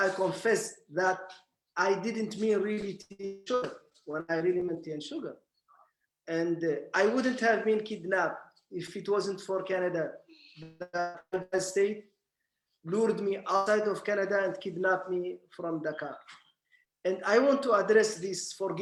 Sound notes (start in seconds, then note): 3.4 speaking German